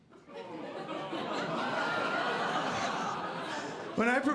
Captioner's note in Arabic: ضحك